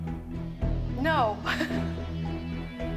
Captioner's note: laughs; dramatic music